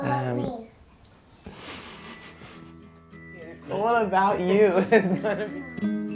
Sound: laughs

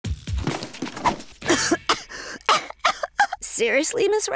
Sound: coughing

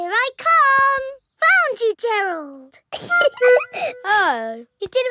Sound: giggling

